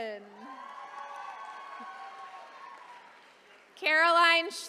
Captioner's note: attendees cheering